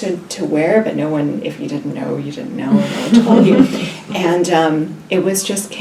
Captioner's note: all laugh